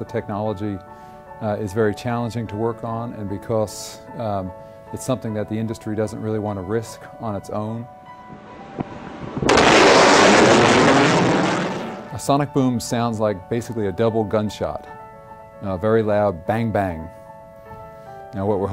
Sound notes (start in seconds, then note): 8.2 sonic Boom sound